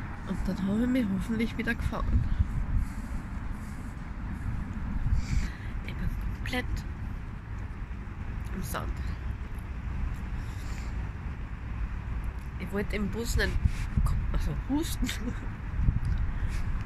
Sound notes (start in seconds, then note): 9.9 background noise & sniffling; 15.4 laughting